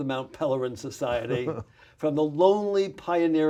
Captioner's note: laughs